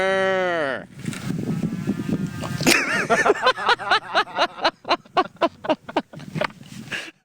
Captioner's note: laughter; cows moo in response